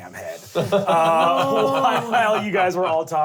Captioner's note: laughs